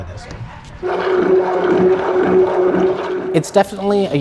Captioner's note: mixer stirs